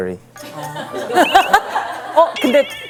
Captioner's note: heh heh